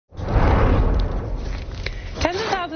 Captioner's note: whooshing